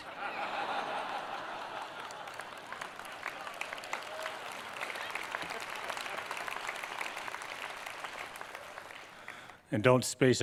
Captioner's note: laughter, Applause